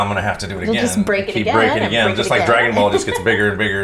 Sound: laughs

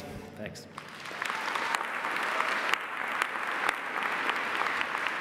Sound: audience applauding

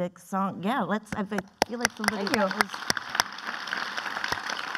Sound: clapping

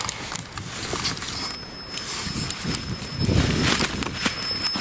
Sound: sensor beeping

